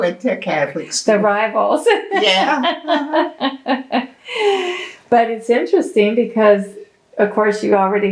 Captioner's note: laughter